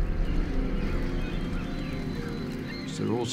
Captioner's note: birds singing